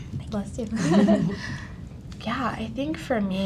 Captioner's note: laughs